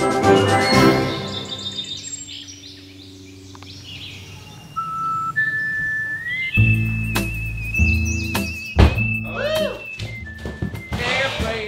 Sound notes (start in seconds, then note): 0.8 birds chirping; 7.0 slow country music